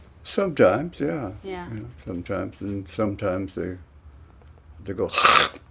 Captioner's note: hocks loogie